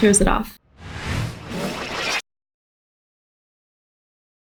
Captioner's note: air whooshing